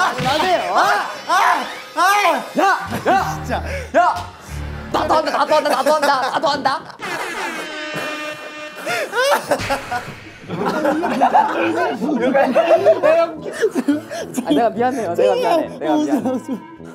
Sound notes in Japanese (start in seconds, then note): 10.4 アハハ